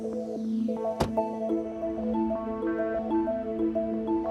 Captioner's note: car door slams